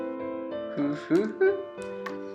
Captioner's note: chuckling